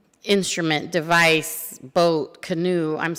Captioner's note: none